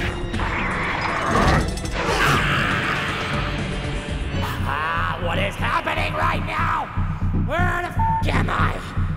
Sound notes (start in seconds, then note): 2.2 ceeeerraash!!!!